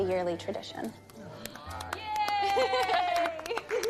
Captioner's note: applause